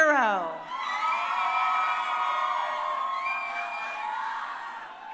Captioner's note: crowd cheering